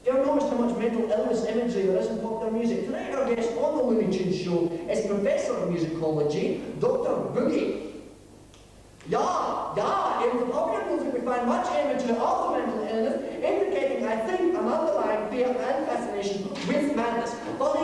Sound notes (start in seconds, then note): 9.3 imitating german accent